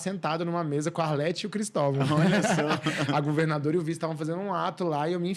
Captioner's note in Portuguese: risadas